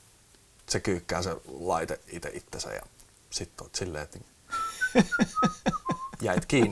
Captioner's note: whistles